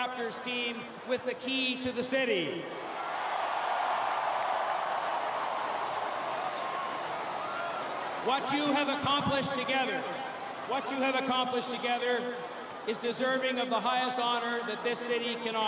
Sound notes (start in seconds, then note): 7.4 applause; 7.8 cheering